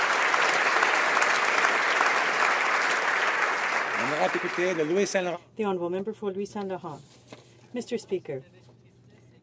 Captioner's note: applause